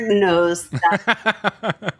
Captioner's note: laughing